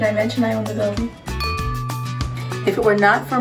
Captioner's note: glass dings